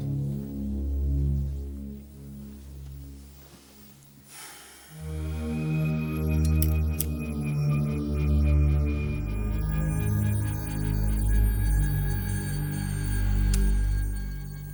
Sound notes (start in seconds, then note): 4.2 Graham sighs